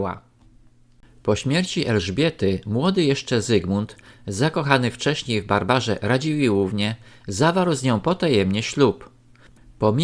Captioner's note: Lithuanian